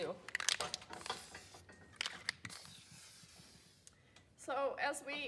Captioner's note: spraying noises